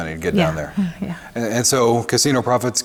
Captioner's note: laughs